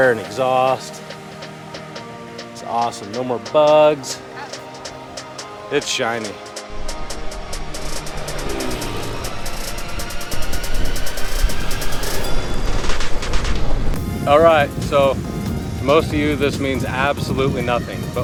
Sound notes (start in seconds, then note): 1.0 soft music; 6.4 plane whizzing; 6.6 soft music